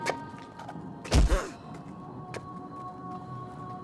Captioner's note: Abby gasps; soft thump; peaceful music